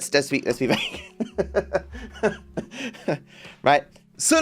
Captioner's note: laughs